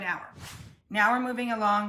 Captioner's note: air whooshes